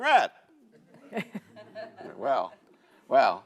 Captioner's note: audience laughs